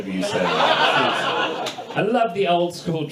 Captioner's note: audience laughs